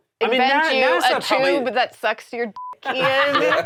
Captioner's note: beep; all laughing